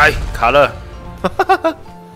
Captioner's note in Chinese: 笑聲